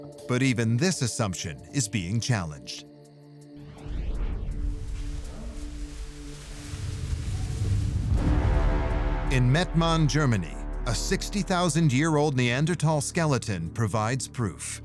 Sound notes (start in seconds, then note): 4.1 bubble wrap rustling; 7.7 ominous music